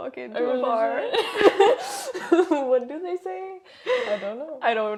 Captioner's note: laugh